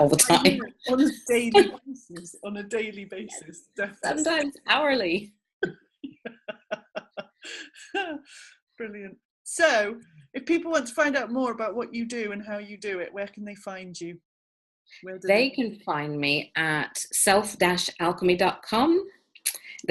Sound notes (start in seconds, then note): 6.0 laughing